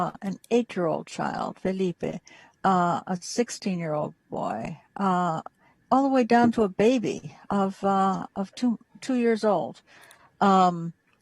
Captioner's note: spanish